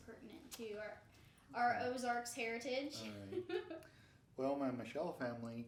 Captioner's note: laughing